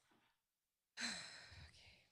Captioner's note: exhaling